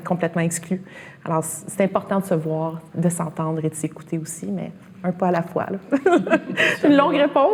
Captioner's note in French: rires